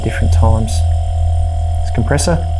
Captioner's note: compressor buzzing